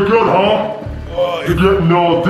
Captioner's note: grunts